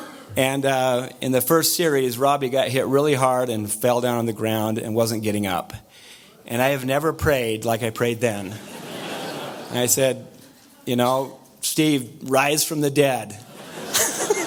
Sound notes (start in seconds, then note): 8.5 audience laughter